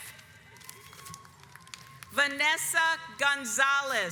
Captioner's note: audience applauds